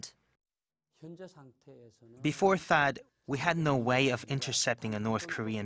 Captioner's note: Korean